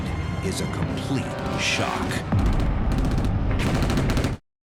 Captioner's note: gunfire